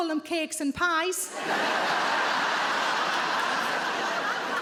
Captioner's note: audience laughs